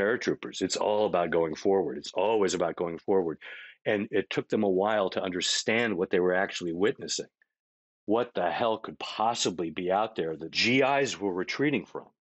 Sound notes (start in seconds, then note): none